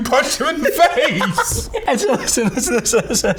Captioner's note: laughing